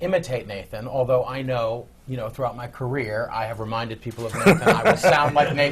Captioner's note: laughs